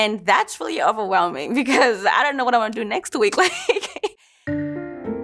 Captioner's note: laughs